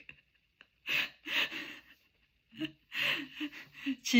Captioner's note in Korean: 웃음; 헉 소리